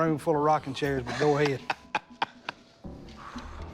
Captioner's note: laughs